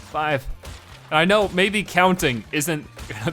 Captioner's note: chuckling